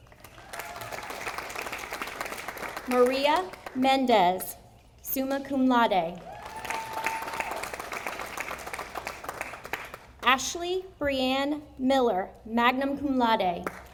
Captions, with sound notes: (audience applauding) Maria Mendez, summa cum laude, (audience applauding) Ashley Brianne Miller, magnum cum laude,